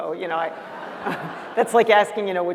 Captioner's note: laughter